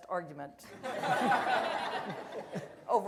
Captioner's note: audience laughter